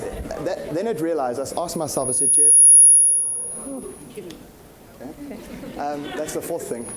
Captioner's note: microphone feedback